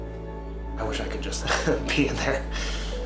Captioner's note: laughs